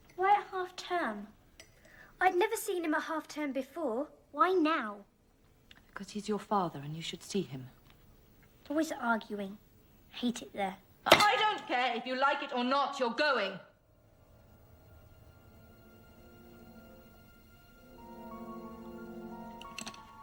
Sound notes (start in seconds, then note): 11.4 screaming; 14.0 foreboding music playing